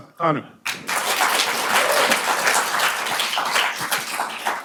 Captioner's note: audience applauding